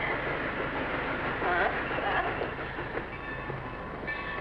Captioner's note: train chugging